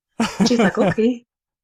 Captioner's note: laughs